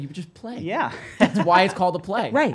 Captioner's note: laughing